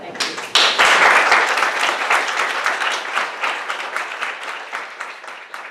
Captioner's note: applause